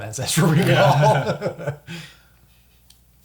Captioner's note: all laugh